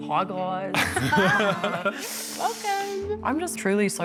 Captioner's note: laughter